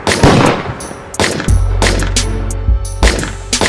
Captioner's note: guns shoot; gun shoots